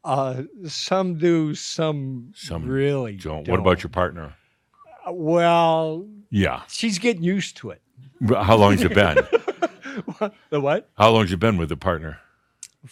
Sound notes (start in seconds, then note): 8.3 he laughs